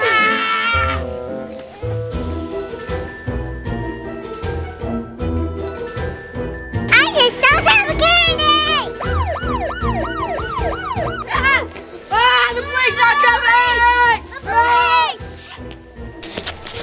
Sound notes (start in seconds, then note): 0.9 yelling; 2.5 spooky music; 8.9 toy police siren wails